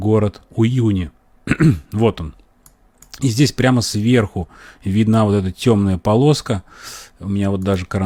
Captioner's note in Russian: откашливается